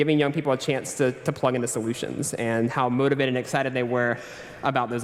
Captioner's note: none